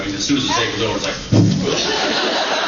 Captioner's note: spitting sound